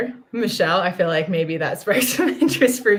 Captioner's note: laughter